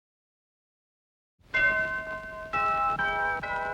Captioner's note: bell dings